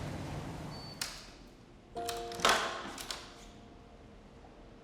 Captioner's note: door lock rattles